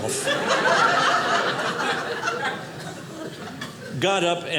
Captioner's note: audience laughing